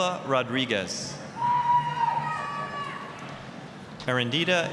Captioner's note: applause, cheering